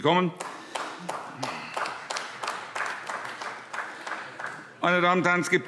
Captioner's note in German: Beifall